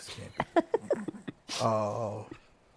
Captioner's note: laughs